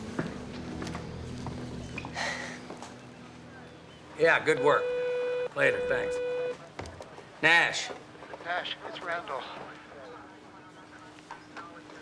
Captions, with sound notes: Good night. (sighs) (phone beeping) Yeah, good work. Later. Thanks. Nash. Nash, it's Randall.